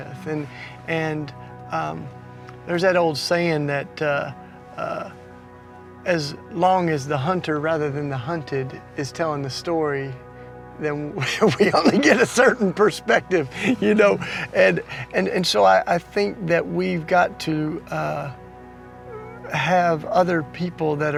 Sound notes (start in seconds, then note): 13.9 laughing